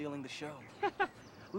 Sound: chuckling

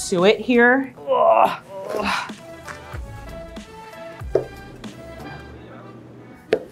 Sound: grunts

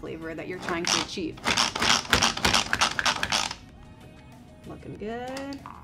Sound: machine clicking

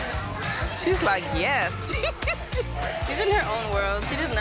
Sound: laughs

